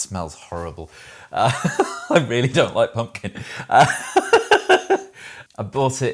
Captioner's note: laughs